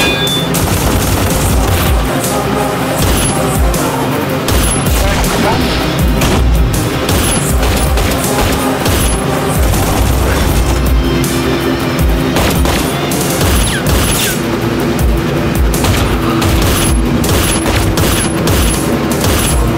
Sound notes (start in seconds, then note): 0.1 rapid gunfire; 2.8 gunshot; 7.0 gunshot; 9.4 rapid gunfire; 13.4 gunshot; 16.4 gunshot